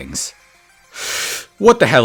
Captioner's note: inhale